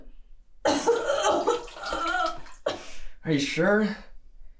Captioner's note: throwing up; liquid splashing